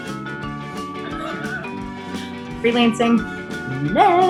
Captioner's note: laughs